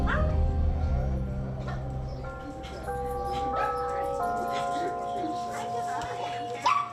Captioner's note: overlapping chattering; clock chiming